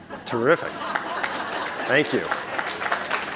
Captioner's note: audience laughing; audience applauding